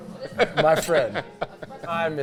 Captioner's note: glasses clink